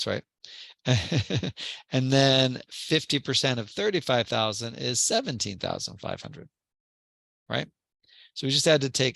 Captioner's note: laugh